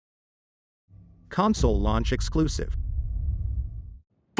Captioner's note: dramatic sound